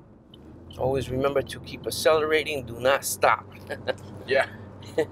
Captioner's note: laughs